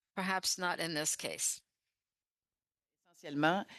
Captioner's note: speaking French